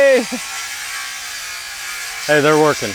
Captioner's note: chuckles